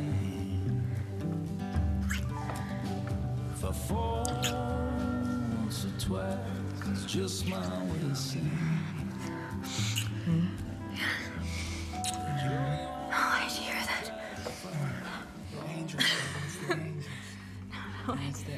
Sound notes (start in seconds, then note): 12.2 doorbell rings